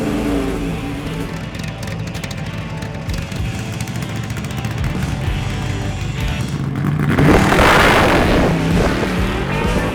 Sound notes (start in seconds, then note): 1.0 upbeat music with engine racing; 5.9 engine idling; 7.7 engine revving